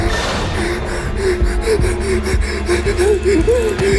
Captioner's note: panicked whimpering